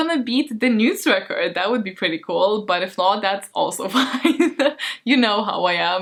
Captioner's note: laughs